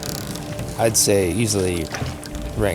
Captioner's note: knocking and creaking